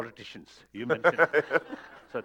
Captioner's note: laughter